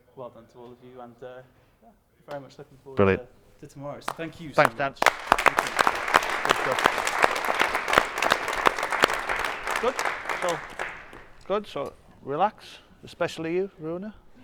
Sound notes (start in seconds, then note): 4.0 applause